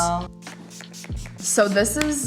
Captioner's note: spraying product